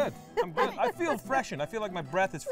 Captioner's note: laughing